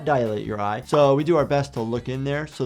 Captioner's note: screen popping